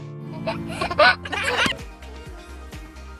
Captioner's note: baby chuckles; upbeat music